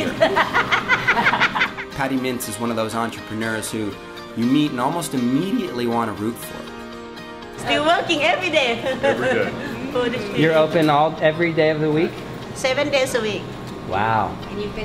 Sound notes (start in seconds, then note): 0.0 heartily laugh; 8.6 laughs